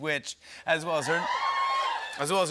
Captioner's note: cheers and applause